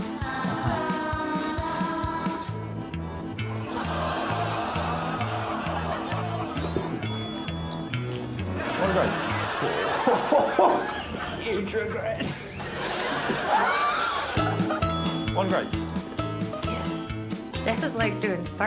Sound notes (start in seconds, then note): 10.9 chuckles